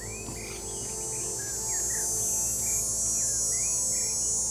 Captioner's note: high-pitched buzzing